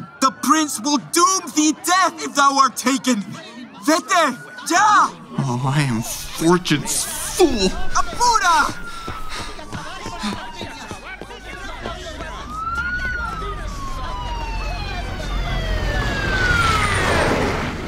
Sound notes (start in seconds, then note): 8.6 footsteps fleeing; 12.4 siren approaching; 15.1 vehicle braking